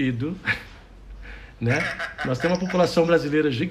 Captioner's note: laughs